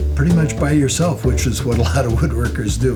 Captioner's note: laughs